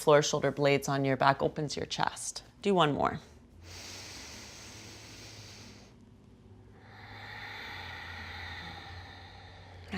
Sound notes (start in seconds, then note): 3.6 inhales loudly; 7.0 exhales loudly